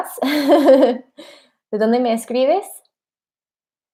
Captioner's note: speaking in spanish